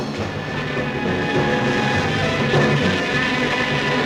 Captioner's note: dramatic music; buzzing